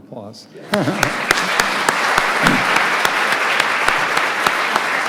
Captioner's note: audience applauding